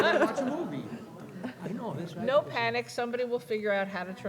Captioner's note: laughter